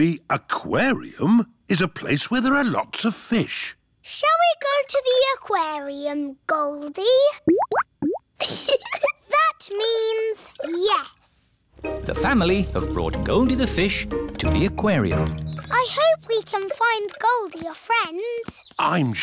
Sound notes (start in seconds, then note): 7.4 bubbling; 8.4 giggles